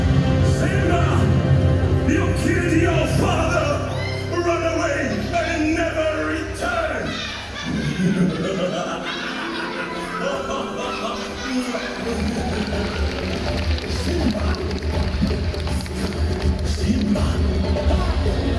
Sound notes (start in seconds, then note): 6.6 Scar and hyenas laugh